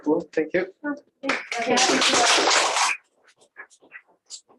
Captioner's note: applause